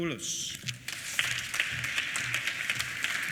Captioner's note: applause